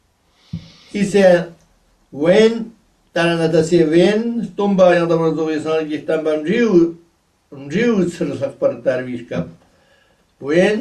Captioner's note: tibetan